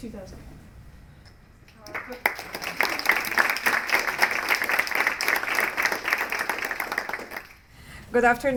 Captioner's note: applause